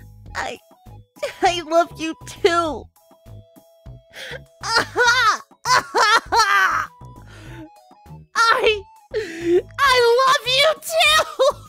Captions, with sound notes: I... I love you, too! (over-exaggerated crying) I... I LOVE YOU TOO!